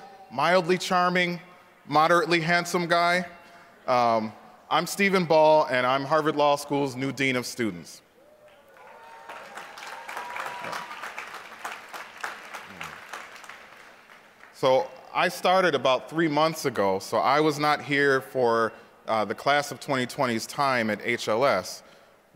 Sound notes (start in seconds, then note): 8.4 applause